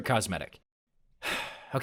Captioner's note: sighs